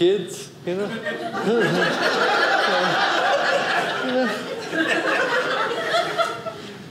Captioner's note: audience laughing